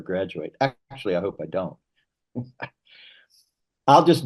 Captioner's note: chuckles